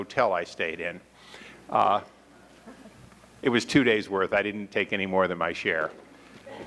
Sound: laughter

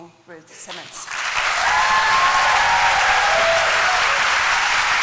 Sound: applause

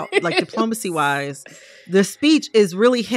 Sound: laughter

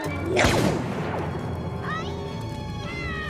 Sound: blaster fire

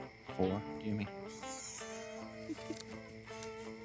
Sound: laughs

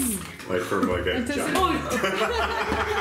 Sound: mumbling; everybody laughing

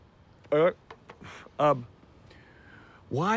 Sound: exhales

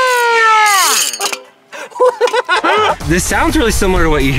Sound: laughing

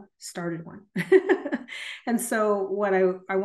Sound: laughs

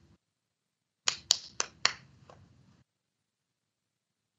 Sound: clapping

